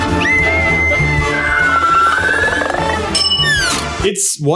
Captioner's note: screams